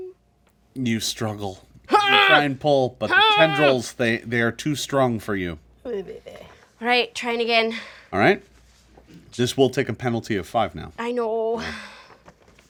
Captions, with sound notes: - You struggle, try and pull, (Omelette grunts with effort) but the tendrils, they are too strong for you. - Oh baby. - All right, trying again. - All right, this will take a penalty of five now. - I know.